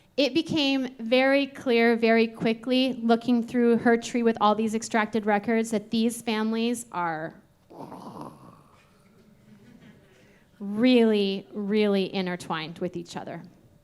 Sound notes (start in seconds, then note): 7.7 vocalizing; 9.4 audience laughing